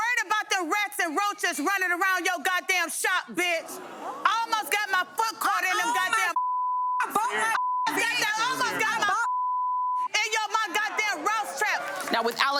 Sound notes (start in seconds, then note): 6.3 beep; 7.2 both chattering